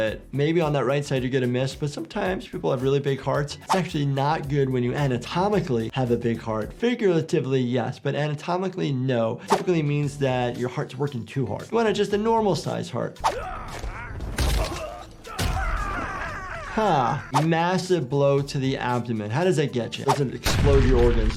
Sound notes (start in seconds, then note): 13.2 bodies thudding; 13.2 Joker screaming; 13.3 fighters grunting; 20.4 explosion booming